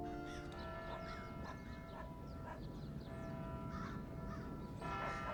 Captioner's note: distant church bell rings